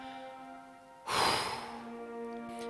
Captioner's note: phew